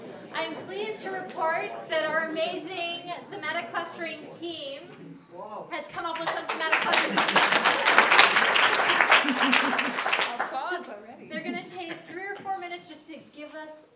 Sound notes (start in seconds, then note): 6.2 applause